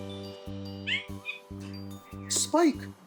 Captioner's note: Spike whimpers